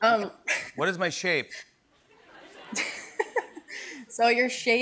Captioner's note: laughs